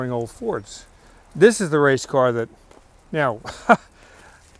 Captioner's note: laughs